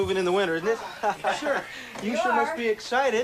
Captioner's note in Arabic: يضحك